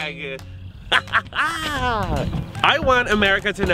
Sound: laughter

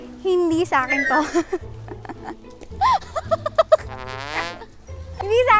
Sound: chuckles

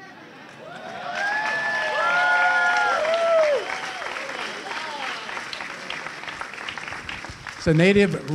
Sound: cheering

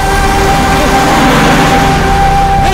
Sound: tyres screeching

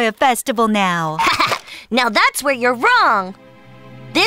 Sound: Tori laughs excitedly

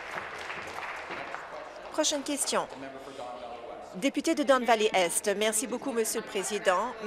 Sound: applause

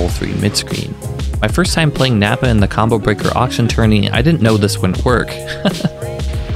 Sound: haha

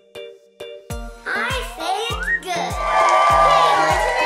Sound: upbeat music; cheering

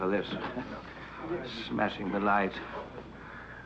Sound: group chattering

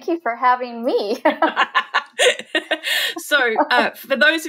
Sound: laughing

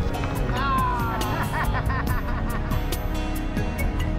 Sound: laughing lightly

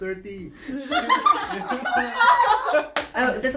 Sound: girls laugh

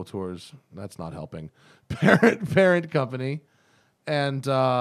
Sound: laughter

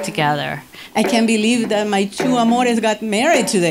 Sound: foreign language

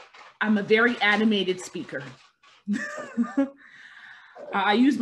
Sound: laughing

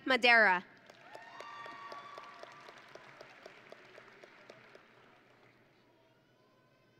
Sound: audience and graduates cheering

